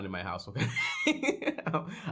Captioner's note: laughs